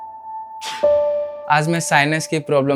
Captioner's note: sneezes